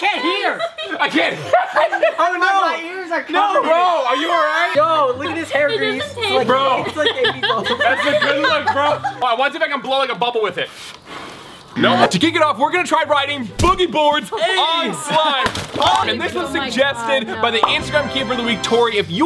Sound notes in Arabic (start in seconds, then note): 2.6 يضحك; 7.0 تضحك